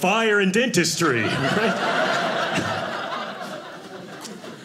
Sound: audience laughing

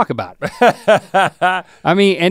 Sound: Rhett laughs

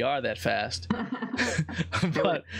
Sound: laughs

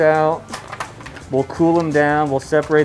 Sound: shells rattle

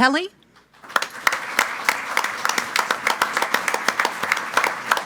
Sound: group applauding

